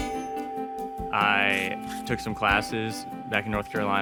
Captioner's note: tool scraping